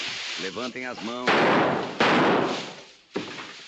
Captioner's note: gunshots